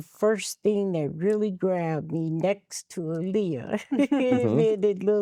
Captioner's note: laughing